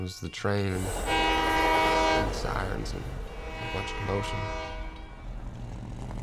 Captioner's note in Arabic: فلاش باك لبوق القطار; بوق القطار، طنين محرك الشاحنة